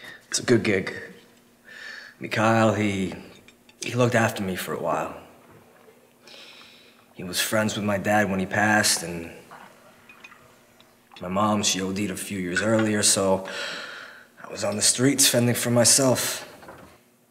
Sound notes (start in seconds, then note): none